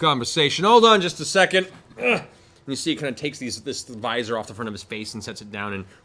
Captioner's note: grunts